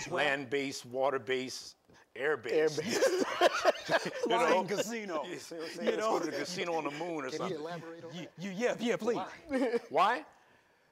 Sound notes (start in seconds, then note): 2.8 chuckling